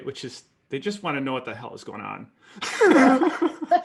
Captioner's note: laughter